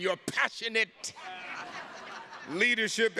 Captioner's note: attendees laughing